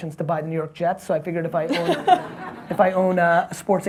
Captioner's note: audience and host laughing